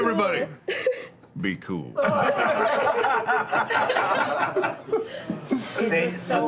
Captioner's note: laughter